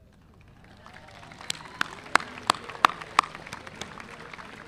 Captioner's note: audience applauding